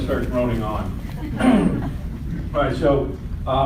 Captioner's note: audience laughs